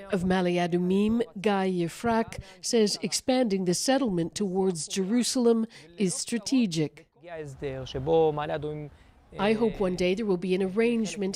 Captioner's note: speaking alternate language